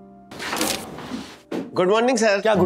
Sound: rustling

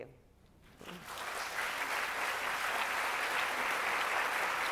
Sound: audience applauding

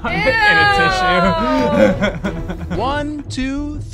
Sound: laughter

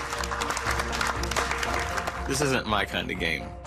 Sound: clapping

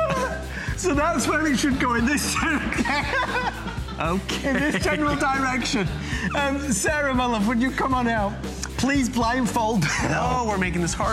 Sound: laughter

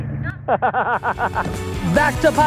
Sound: laughing

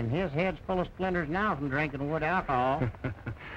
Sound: chuckling

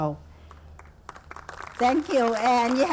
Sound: audience clapping

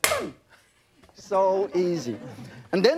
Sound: audience laughs

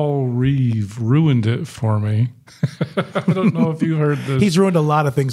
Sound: chuckling

